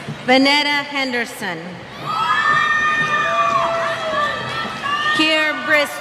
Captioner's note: cheers